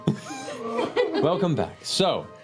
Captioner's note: whimpering